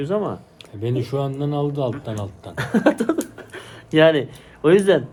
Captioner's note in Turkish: kahkaha